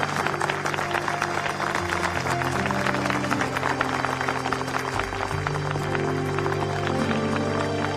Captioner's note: applause